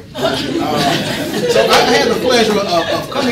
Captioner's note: audience laughing